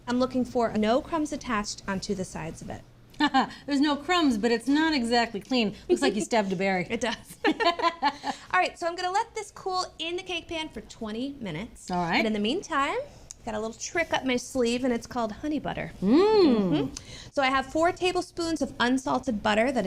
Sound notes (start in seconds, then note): 2.9 laughs; 7.3 both laugh